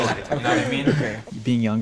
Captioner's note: guys murmuring in agreement